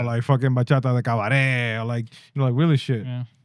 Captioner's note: speaking In Foreign Language